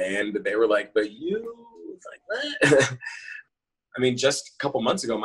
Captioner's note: chuckles